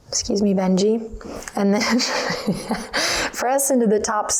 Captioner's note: laughs